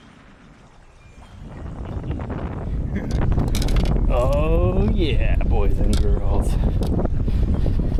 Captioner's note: laughing